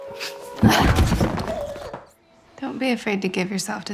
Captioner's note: dancer grunting; dancer body thumping